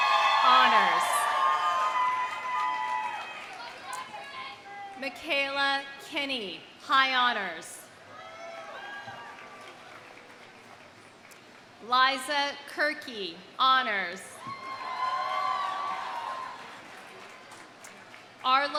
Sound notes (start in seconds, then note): 2.0 audience applauding; 2.0 audience cheering; 8.1 audience cheering; 8.4 audience applauding; 14.4 audience cheering; 14.5 audience applauding